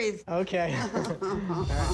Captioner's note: laughter